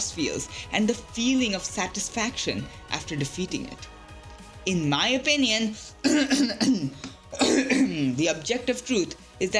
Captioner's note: cough